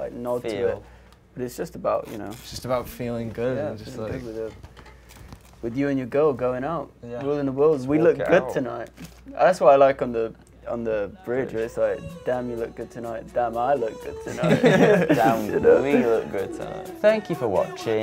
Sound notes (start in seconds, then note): 14.2 laughing